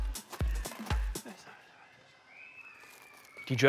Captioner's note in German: Leises Flüstern